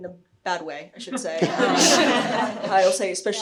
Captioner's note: audience chuckling